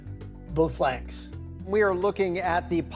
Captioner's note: soundbite of archived recording